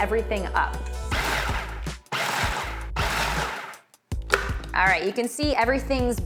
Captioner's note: food processor whirs